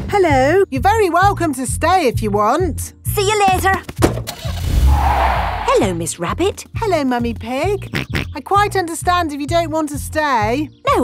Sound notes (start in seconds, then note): 4.3 car starting; 4.4 tires screeching; 8.1 snorts